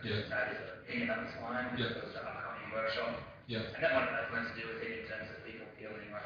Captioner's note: audio distorts